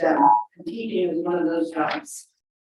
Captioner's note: alarm beeps